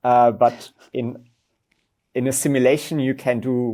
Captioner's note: host laughs